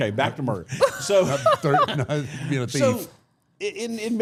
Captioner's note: group laughs